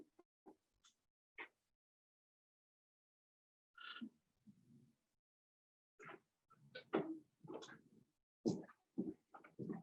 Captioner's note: silence